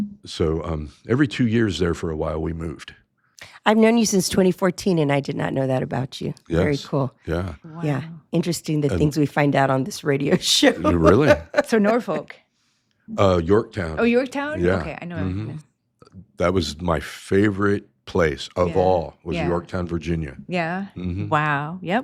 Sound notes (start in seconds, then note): 10.4 laughs